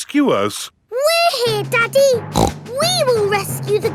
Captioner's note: snorts